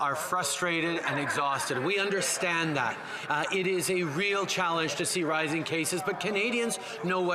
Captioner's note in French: voix de l'interprète